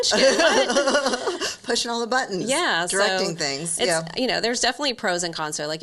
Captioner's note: laughs